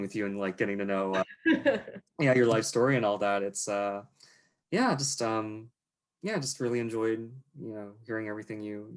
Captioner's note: laughs